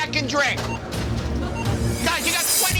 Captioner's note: beeping